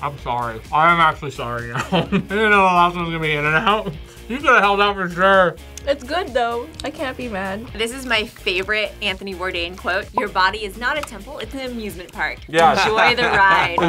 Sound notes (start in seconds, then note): 1.7 laughs